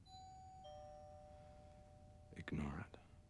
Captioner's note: doorbell rings